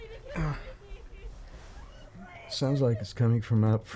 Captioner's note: Heather crying for help; man groans